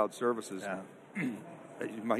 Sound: clears throat

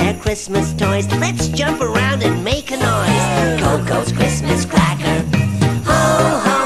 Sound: cheering

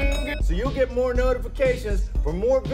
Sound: dinging noise

